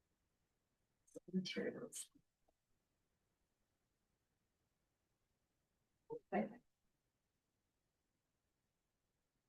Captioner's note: pause